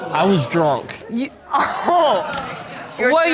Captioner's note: scoffs